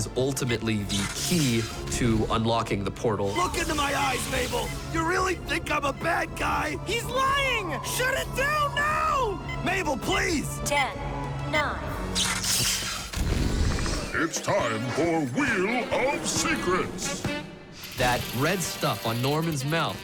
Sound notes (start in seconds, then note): 10.7 beeping; 12.8 electricity crackles